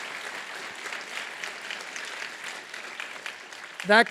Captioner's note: applause